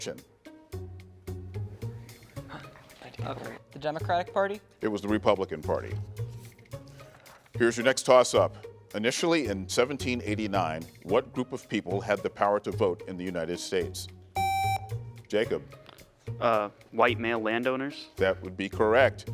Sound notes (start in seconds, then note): 0.3 gentle music; 5.8 gentle music; 14.4 buzzer beeps